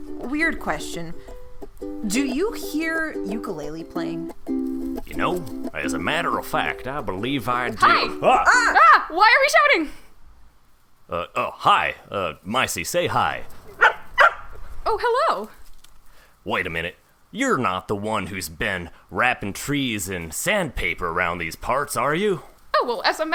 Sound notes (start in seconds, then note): 7.6 SFX: Ukulele music stops; 13.7 barks